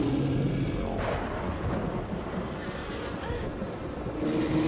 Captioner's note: thunder cracks